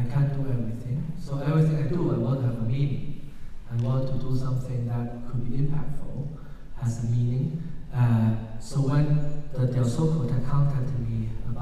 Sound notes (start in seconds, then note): none